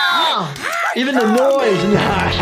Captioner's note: screams in pain